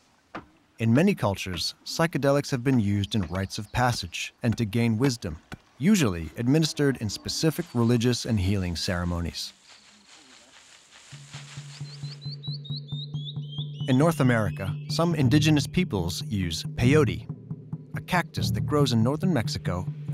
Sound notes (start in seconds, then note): 11.4 birds chirping